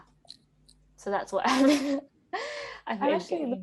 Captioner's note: laughs